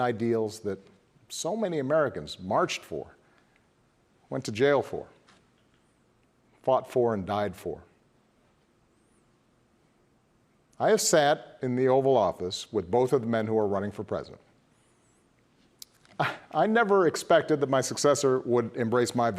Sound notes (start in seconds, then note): none